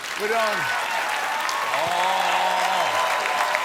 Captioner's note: cheers and applause